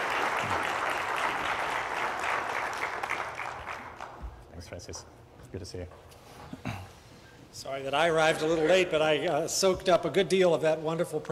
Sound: applause

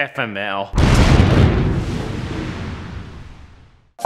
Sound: massive explosion

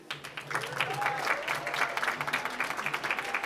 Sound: applause

